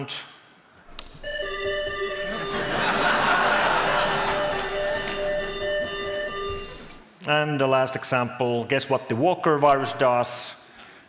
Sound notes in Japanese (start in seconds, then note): 1.0 サイレンの音